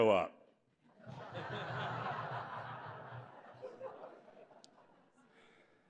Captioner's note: laughter